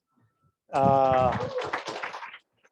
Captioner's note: applause